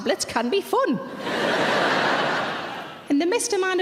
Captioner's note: audience laughing